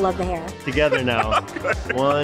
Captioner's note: laughing